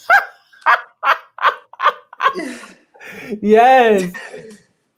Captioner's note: laugh